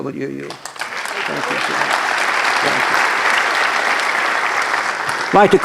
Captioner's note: applause